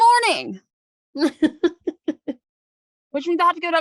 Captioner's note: laughing